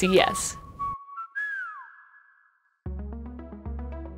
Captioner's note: whistling; gentle music playing